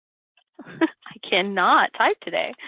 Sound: laughs

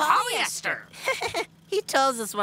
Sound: laughing

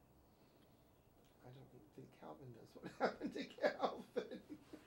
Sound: laughs

